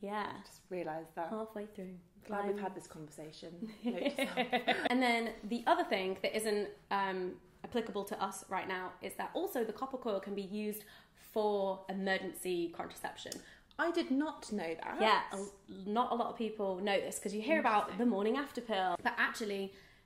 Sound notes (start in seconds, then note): 3.9 laughs